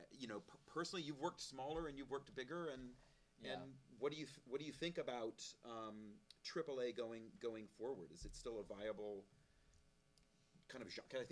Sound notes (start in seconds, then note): none